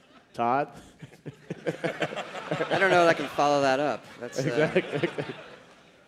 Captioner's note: cheers and applause